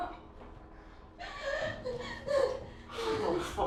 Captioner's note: Sarah sobs